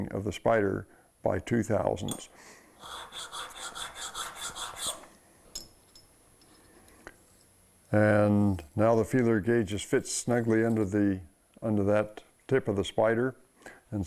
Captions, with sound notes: of the spider by 2/1000ths. [metal grinding] And, now the feeler gauge just fits snugly under that tip of the spider.